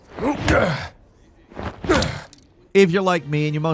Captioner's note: Indy grunting in exertion